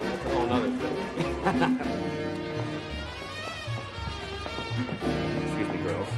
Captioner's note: laughs